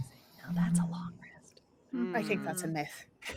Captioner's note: whispers